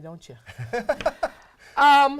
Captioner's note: laughing